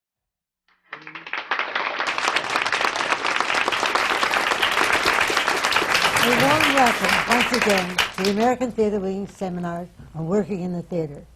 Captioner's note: applause